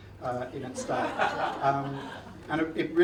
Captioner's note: audience laughs